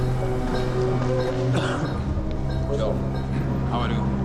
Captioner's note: coughs